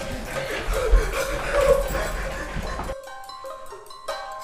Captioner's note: Painter whimpers